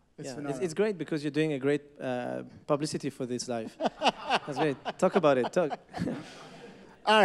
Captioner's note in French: Rires